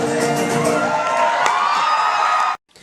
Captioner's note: crowd Cheers